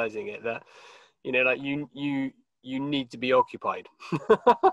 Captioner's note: laughs